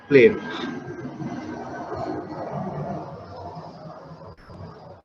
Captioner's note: plane engine roaring